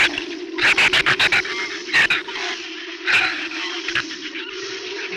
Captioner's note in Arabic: ثرثرة الزبابة